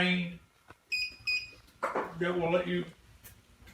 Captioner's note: beeping